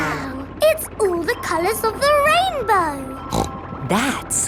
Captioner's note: snorts